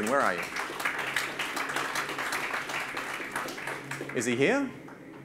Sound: audience claps

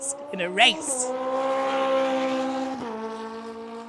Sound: car zooming

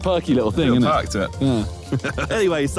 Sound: chuckles

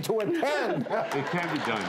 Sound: laughter

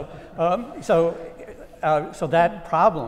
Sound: laugh

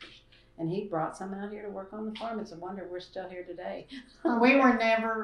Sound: laughs

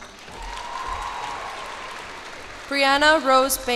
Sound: cheers and applause

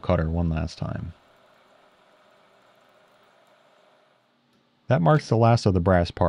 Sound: lathe machine whirring

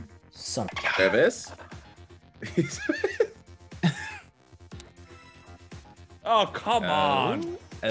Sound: laugh

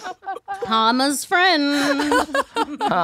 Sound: laughs

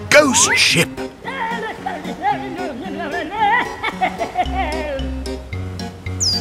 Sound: blabbers and laughs

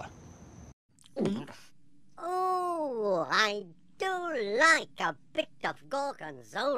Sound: gulps

